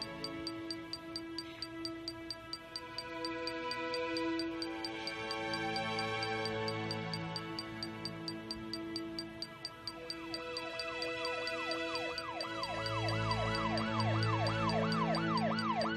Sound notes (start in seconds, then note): 10.4 police siren wailing